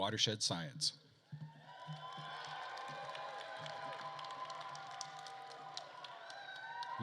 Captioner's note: attendees cheering and applauding